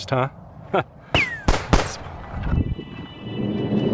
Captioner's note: gunshots effect